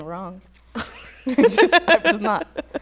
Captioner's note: laughter